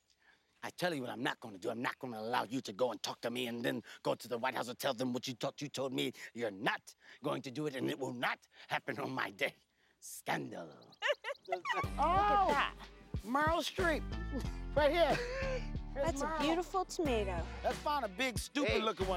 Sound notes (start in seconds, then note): 0.0 seductively; 10.0 seductively; 10.9 giggles